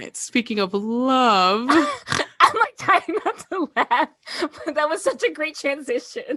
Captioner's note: uncontrolable laughter